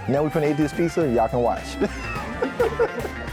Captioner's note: people laughing; upbeat music